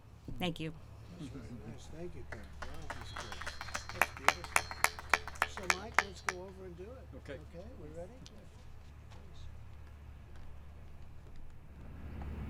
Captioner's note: applause